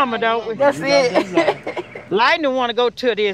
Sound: all laugh

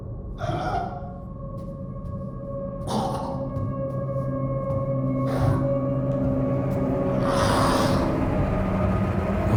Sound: hear a monster roar

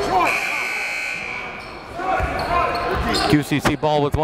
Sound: buzzer dings

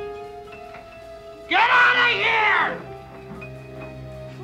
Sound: yelling

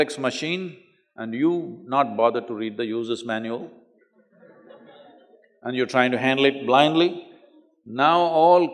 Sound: laughter

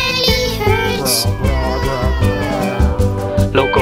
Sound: grrrrr, grrrrr, grrrrrr

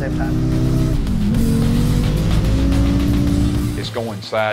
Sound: car engines roaring

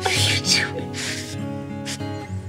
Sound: sniff

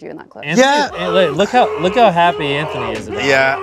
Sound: screaming

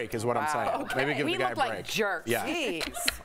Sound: laughter

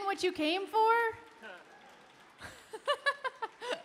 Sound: chuckles; laughs

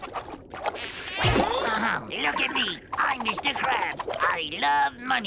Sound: clears throat

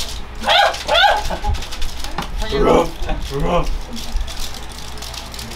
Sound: barking

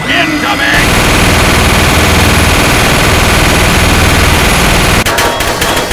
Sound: machine gun fires

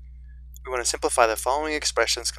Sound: voiceover

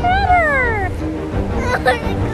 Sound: crying

